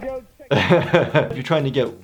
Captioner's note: laughing